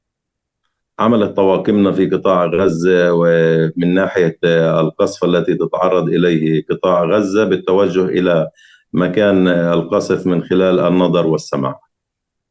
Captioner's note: speaking arabic